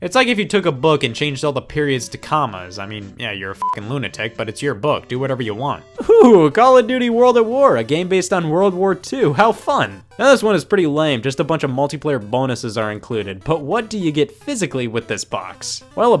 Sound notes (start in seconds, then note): 3.6 beep